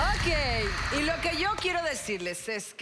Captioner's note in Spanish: Aplausos